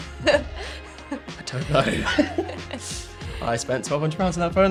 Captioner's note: laugh